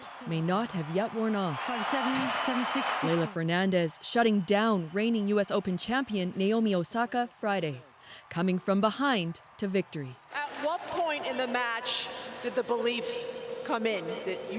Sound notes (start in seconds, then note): 1.8 cheers and Applause